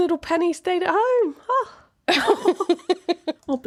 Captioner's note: laughing